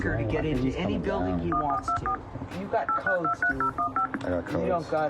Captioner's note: dialer beeps